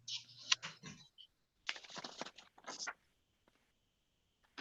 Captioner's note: papers clustering